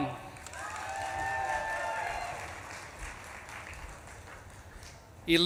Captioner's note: audience claps and cheers